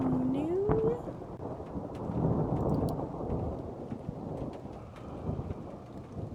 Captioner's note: thunder Continues; thunder Rumbling; rattling Hiss; thunder Continues